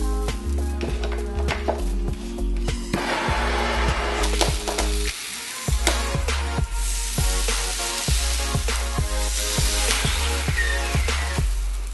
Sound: sizzle and popping

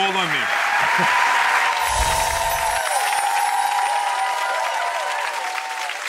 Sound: audience applauds; wind chimes

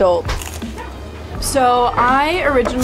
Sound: sandwich crunching

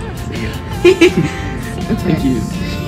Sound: student giggling; interviewer giggling

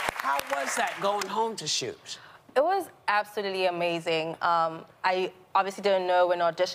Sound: cheers and applause

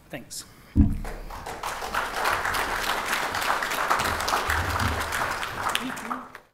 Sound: applause

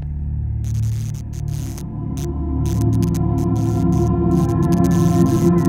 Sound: flickering sound

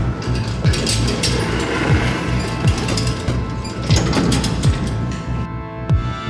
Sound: elevator closes indiscreetly

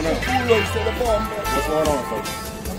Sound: shouting

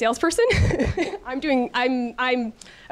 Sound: chuckles

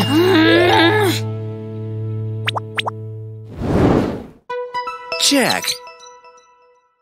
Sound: shouting and screaming

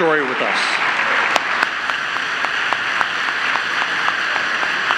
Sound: audience applauding

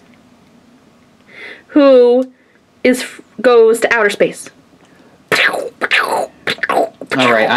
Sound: imitates laser gun noises

